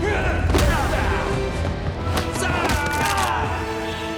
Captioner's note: grunting